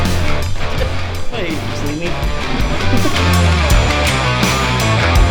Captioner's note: laugh